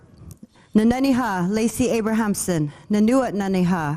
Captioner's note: speaking foreign language